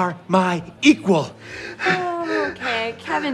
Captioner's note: panting